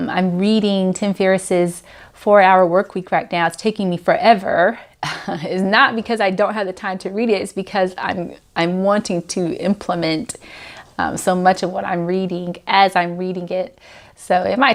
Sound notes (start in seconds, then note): 5.0 laughs